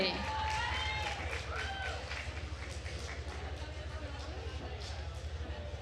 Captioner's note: attendees cheering and applauding